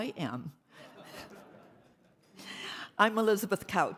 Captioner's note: audience laughing